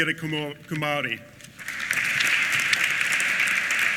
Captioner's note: applause